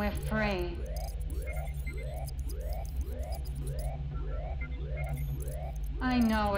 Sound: alarm blaring; computer trilling

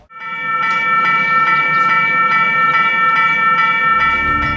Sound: warning bells ringing

